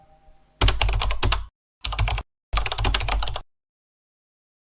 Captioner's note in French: bruit de clavier